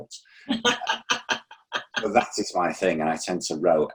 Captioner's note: laughing